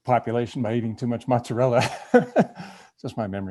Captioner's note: laughing